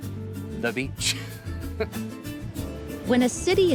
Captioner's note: chuckles